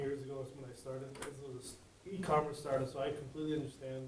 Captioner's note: speaks faintly